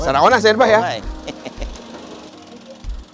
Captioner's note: laughs